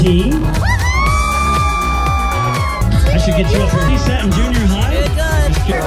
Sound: crowd cheers

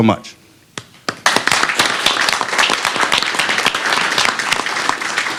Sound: applause

